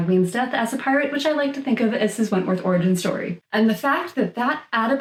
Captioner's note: none